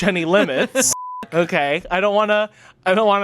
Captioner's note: beep